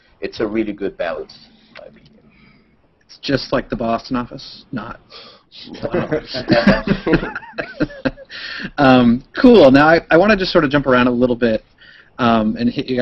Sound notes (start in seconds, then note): 5.7 laughter